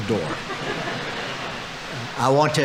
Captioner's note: audience laughing